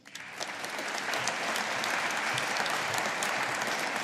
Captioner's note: audience applauding